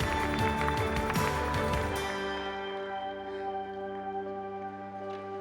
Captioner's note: applause